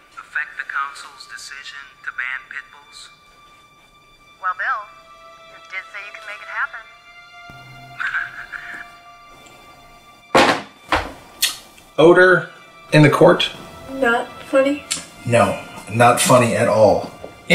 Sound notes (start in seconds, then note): 8.0 Attorney Laport chuckles; 10.3 cellphone clatters